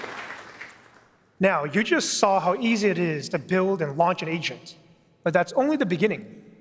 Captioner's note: applause